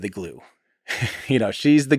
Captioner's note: Tim laughs